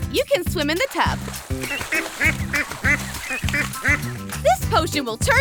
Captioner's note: duck quacking